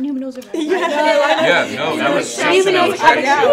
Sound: all laughing

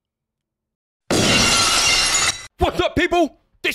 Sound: glass shatters

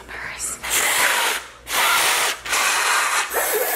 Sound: blowing air

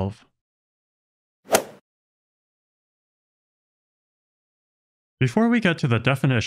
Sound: golf ball hit sound effect

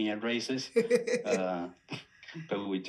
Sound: laughing

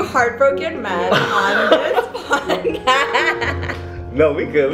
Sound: everyone laughs

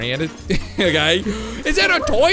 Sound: gasps

